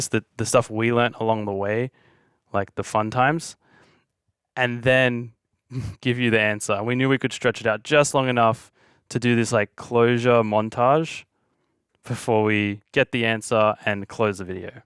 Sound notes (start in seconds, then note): 5.7 chuckling